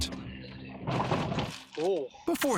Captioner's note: vehicle rattles